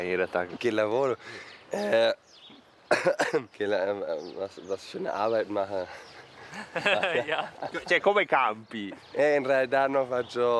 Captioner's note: sigh sob sob smile